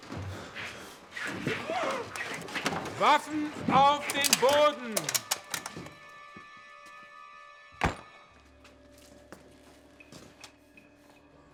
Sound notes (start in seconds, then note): 0.3 footsteps; 3.3 speaking German; 4.0 guns cocking